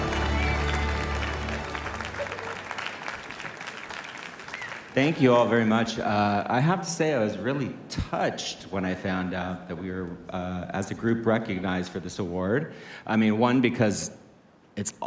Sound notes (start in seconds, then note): 4.2 cheers and applause